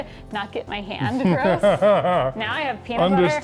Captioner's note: laughs